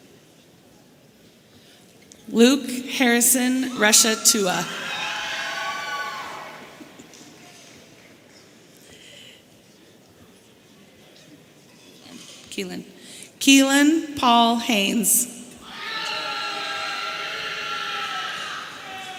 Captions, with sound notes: Luke Herrison Reszetucha. (audience cheering) Keelan Paul Hanes. (woman screaming)